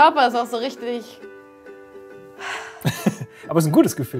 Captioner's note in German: Erleichtertes Aufatmen; lacht